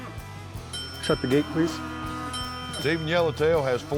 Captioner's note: dinging